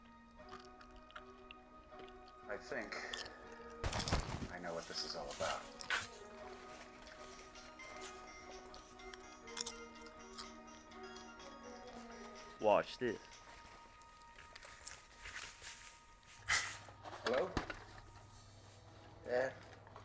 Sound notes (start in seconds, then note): 7.9 phone rings